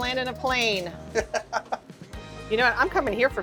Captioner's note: laughs